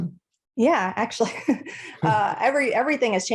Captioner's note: laughs